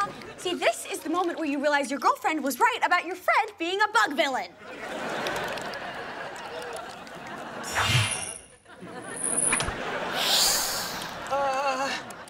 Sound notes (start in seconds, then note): 10.1 hissing